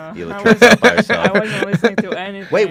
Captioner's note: laughs